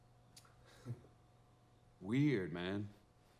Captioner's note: Lance chuckles